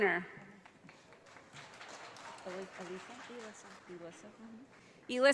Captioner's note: audience applauding